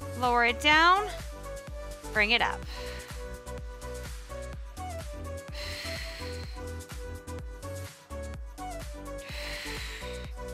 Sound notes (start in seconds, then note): 5.4 exhales